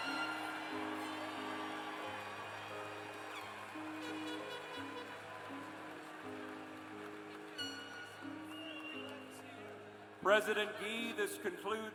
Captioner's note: cheers and applause